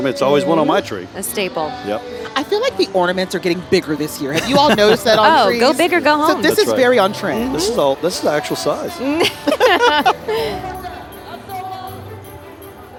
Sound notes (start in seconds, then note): 4.3 laughing; 11.3 laughing